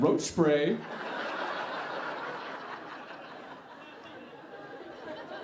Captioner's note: audience laughing